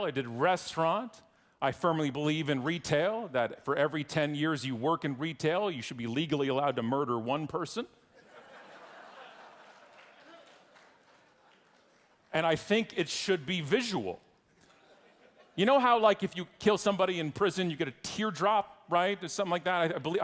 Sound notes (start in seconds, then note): 8.2 audience laughing